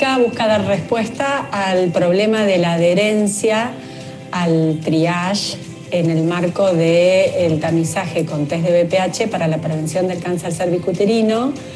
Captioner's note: foreign Language Spoken